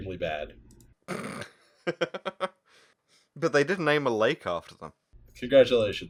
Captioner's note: ugly snort-laugh